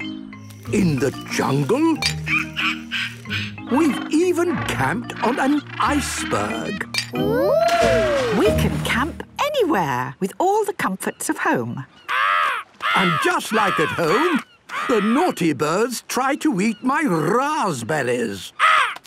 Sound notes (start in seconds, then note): 11.8 seagull cries